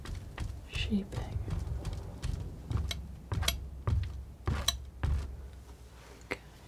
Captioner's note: scratching